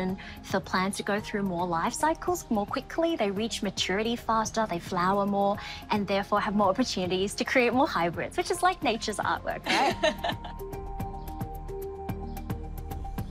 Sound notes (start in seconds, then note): 9.6 laughs; 11.0 uplifting music